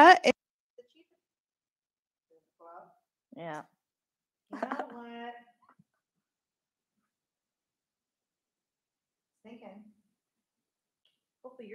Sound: microphone cuts out

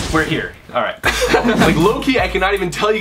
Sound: both laughing

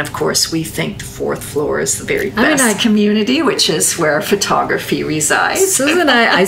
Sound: laughs

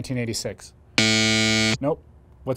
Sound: buzzer buzzes

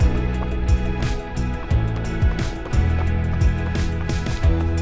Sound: footsteps crunching

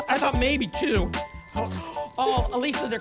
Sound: gasps

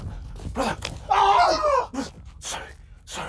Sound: Jerry screaming in pain

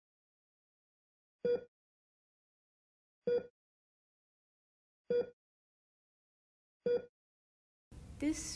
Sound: heart monitor

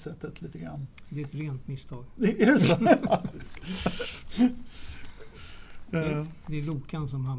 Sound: laugh

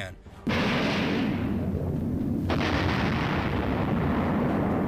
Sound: bombs blasting

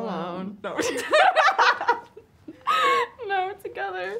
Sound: girls laughing

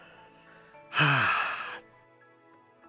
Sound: sigh

